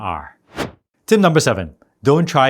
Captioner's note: air whooshing